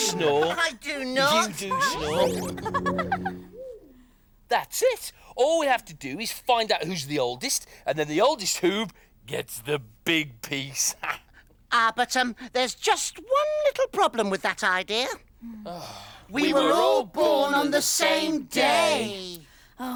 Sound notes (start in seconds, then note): 2.2 laughter